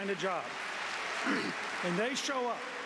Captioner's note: applause